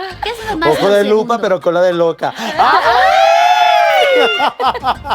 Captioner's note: collective gag